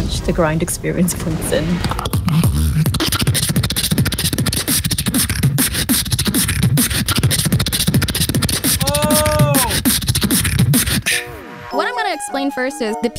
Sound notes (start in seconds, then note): 1.7 beatboxing; 1.8 intense neatboxing; 7.0 intense beatboxing intensifies; 9.8 intense beatboxing